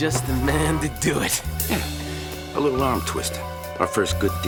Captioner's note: chuckling